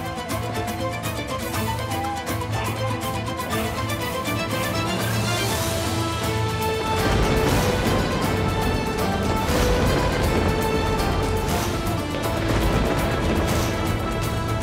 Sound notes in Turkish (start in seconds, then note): 6.7 Gök gürültüsü efekti; 6.7 Müzik - Hareketli